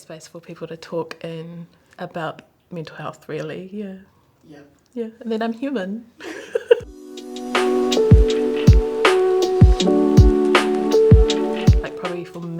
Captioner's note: laughs